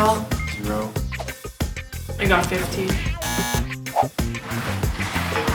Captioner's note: buzzer sound